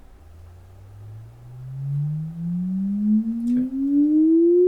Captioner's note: frequency sweep